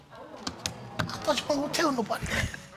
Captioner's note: audience exclaiming